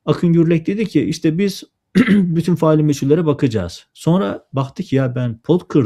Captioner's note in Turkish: boğazını temizler